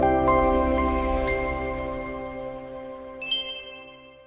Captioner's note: bell Sound